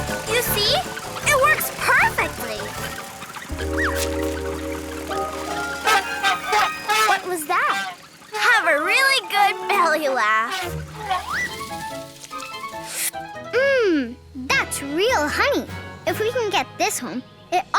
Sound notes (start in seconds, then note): 3.7 elephant trumpeting; 3.7 playful cheery music; 11.8 playful cheery music